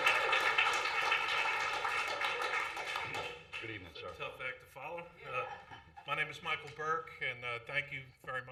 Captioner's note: applause